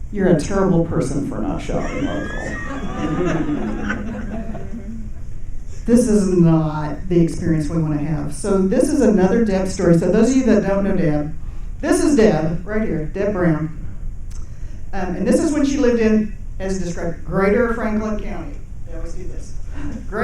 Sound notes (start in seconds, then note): 1.7 audience laughing